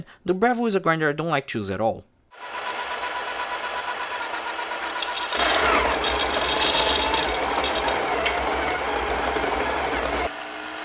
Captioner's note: cut to the breville/sage grinder making noise